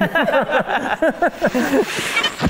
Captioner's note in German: Lachen